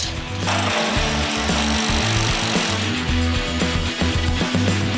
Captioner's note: drilling; upbeat music